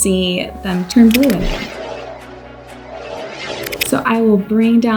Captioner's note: dramatic music; whirring